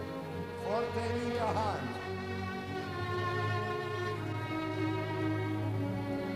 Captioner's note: speaking foreign language over music